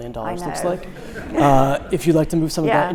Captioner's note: audience laughing